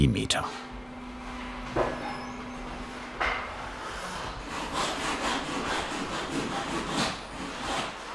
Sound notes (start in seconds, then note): 3.2 sawing noise in the background